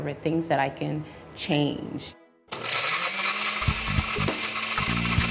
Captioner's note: blender noise